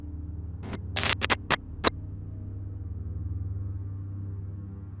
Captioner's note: static crackling